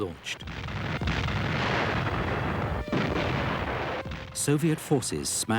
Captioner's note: explosions booming; stirring symphonic music